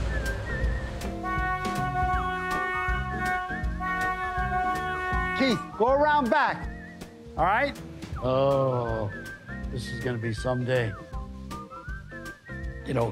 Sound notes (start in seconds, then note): 1.6 horn blaring; 11.1 bright music continues